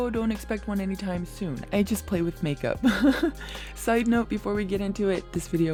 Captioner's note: laughs